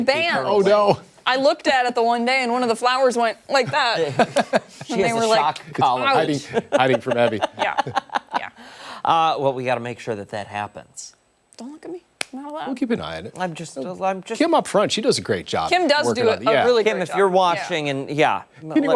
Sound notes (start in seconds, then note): 8.8 laughter